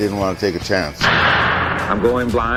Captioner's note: bang! Judge's hammer!